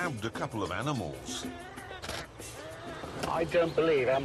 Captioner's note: turkey gobbling